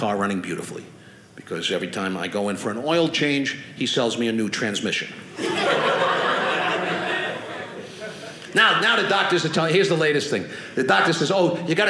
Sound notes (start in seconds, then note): 5.3 audience laughing